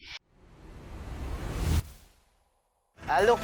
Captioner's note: whooshing effect